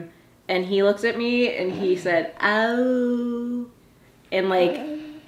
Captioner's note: mimics